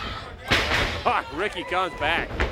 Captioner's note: crowd chatter